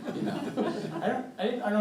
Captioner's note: audience chuckling